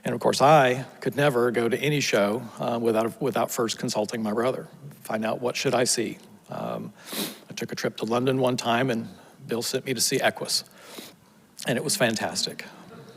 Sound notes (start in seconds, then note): 7.0 sniffles; 12.9 audience laughs